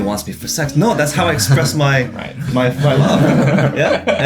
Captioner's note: everyone chuckling